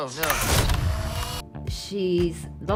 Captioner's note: camera clicking